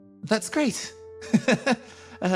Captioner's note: chuckles